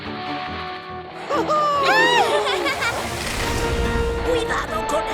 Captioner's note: dramatic music; sled sliding; kids giggling